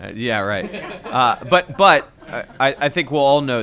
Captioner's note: laughter